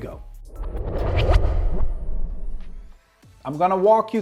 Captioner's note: transition whooshing